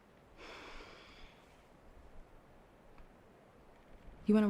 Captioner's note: Rachel sighs